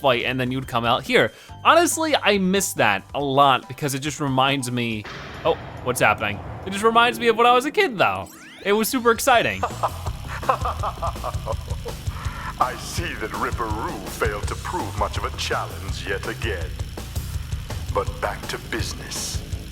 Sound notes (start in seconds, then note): 9.6 laughs